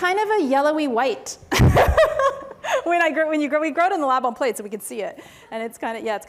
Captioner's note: laughs